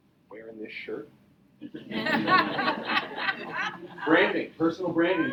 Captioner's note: audience laughs